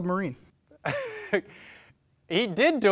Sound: laughs

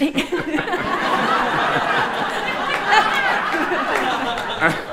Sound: audience laughing

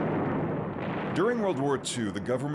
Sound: ammunition exploding

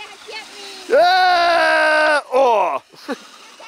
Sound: laughing; fun yelling, no words

